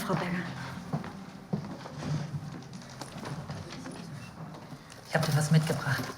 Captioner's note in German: Schieben eine Stuhls